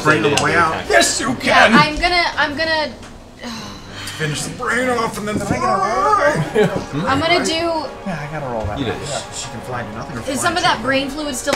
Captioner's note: sighs